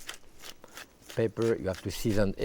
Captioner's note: pepper mill grinding